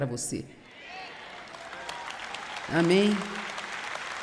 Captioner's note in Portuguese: plateia aplaudindo